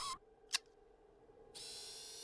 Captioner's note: clicks; whirring